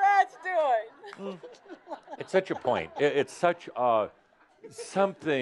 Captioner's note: she continues giggling